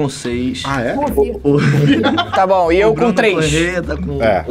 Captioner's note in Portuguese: risadas